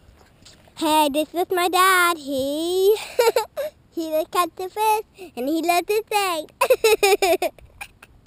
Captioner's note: laughing